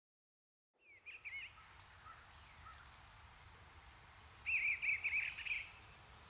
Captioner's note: bird sounds